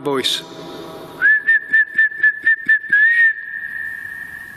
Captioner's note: whistling